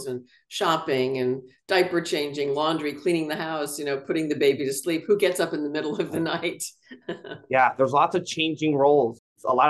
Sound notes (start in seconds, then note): 6.9 laughs